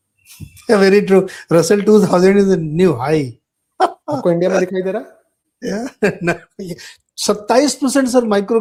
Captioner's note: laughter